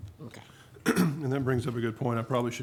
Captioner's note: clears throat